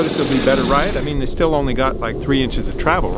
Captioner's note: engine roaring